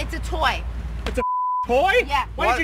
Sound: beep

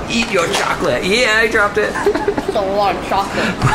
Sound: laughing

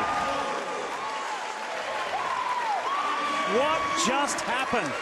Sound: fans cheering

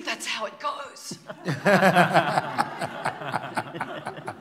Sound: laughter

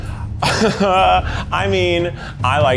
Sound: nervously laughing

